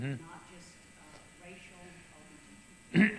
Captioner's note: clears throat